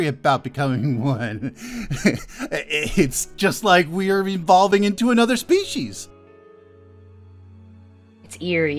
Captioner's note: slightly mad chuckle